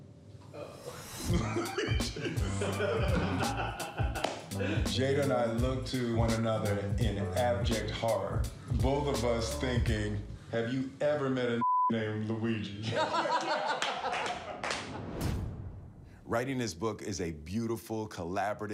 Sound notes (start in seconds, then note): 12.8 laughing